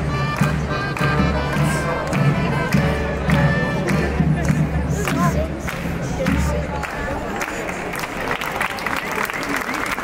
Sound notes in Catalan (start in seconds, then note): 5.5 Aplaudiment